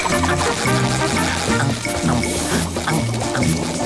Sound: humming

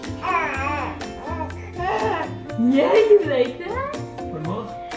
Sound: babbling

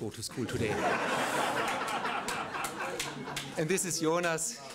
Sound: laughter

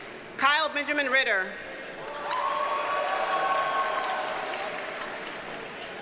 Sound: audience cheers and applauds

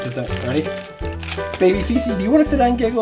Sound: plastic wrap crinkling

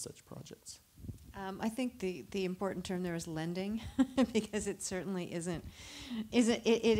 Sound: laughter

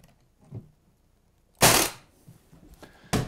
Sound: staple gun

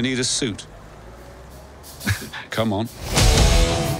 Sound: laughter

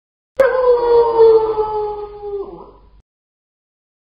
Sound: wolf howling

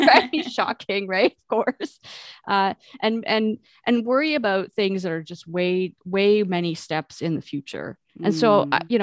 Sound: sarcastically

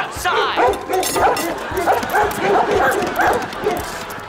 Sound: barking

